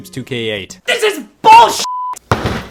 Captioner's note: beep